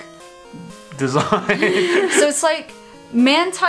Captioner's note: both laugh